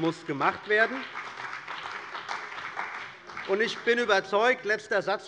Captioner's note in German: Beifall bei der CDU und dem BÜNDNIS 90/DIE GRÜNEN